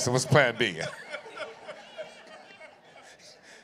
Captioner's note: laughter